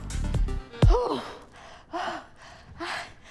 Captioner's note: pants